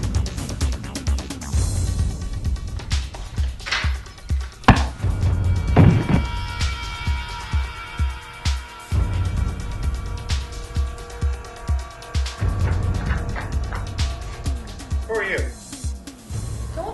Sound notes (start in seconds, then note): 0.2 running feet, door opens; 5.7 whack! thud!; 12.5 running feet